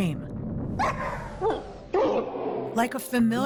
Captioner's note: barking, audio slowing down